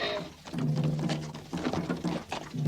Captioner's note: donkey brays